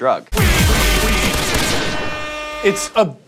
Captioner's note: airhorn and explosion noises